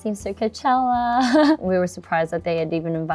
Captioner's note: chuckles